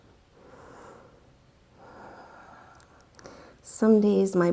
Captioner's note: deep breathing sounds